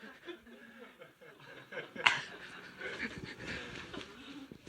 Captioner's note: laughter